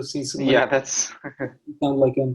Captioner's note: chuckles